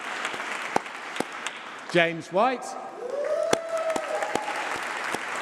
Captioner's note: applause